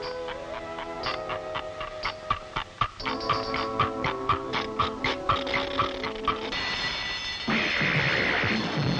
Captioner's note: the clock reassembles itself, ticking loudly. The alarm rings